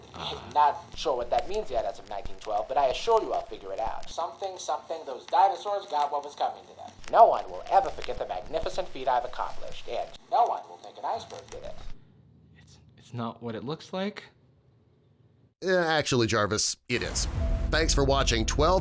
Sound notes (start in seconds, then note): 16.0 voiceover